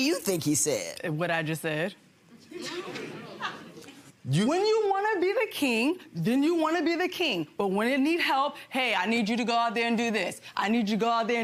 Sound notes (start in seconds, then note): 5.0 audience chuckles